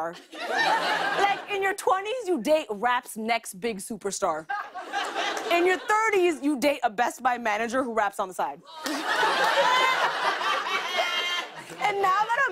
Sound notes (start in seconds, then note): 8.7 laughter and applause